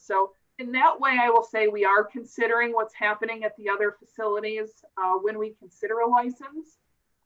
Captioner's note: none